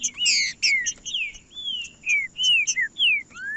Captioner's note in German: trinca ferro cantando